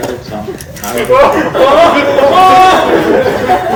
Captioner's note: people shouting in excitement; laughing